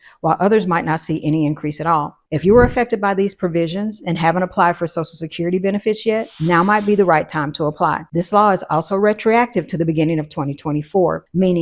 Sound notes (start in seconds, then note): 6.1 air hissing